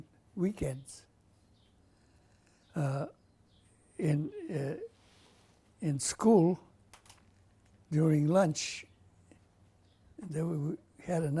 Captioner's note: pauses for 3 seconds